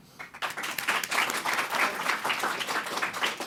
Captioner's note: applause